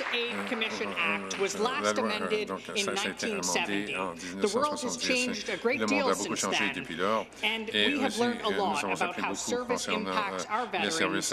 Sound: some Applause

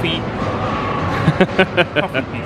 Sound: laughs

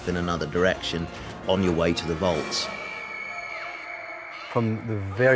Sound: Ron, Hermione, and Harry screaming

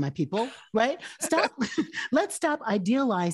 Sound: both laughing

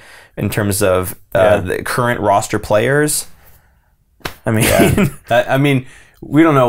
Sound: laughs

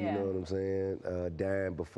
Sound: laughing

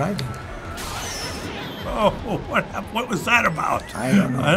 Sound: chuckling

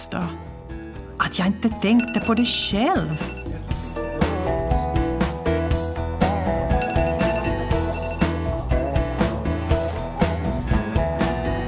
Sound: alarm rings for switching tables

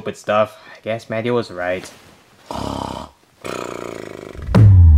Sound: snoring

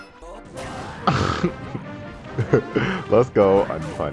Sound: pig snort

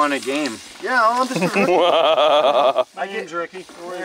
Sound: laughs

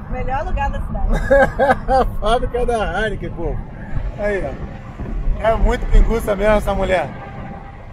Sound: laughter

